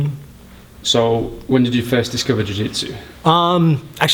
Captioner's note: voiceover